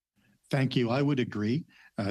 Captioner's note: speaking French